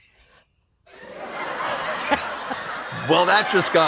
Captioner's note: laughter